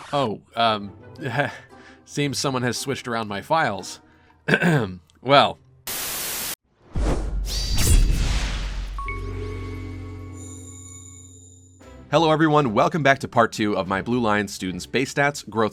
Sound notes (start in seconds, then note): 4.4 ahem; 5.9 Static; 6.8 swoosh; 7.0 sword slash; 8.8 intro jingle